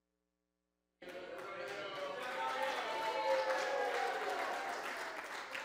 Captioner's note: cheers, applause